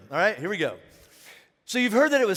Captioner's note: none